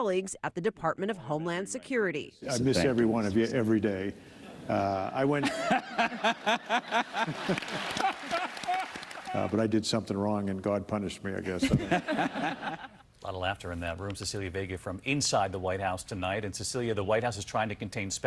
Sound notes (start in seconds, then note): 11.5 laughter